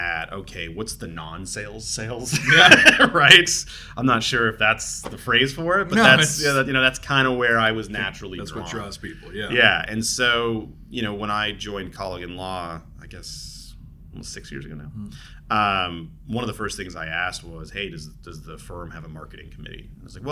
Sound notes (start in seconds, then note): 2.3 both laughing